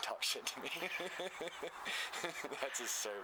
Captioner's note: laughter